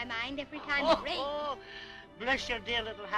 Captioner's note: laughing